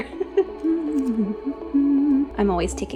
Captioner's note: hums